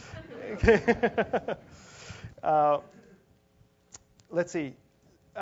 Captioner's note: laugh; laugh